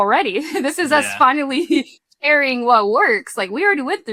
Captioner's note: chuckles